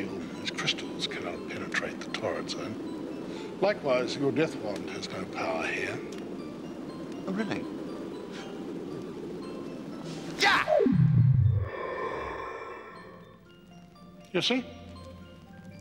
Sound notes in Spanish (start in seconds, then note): 11.5 viento silbando